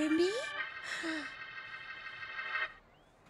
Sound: sighing

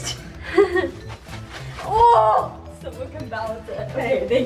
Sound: laughs

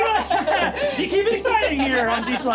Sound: players laughing

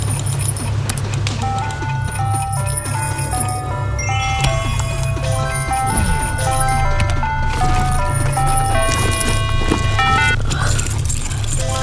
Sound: mobile phone rings

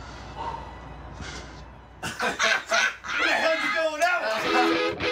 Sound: laughing

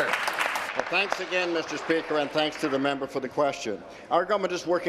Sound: applause

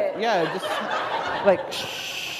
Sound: laughter

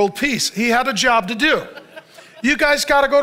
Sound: congregation laughs

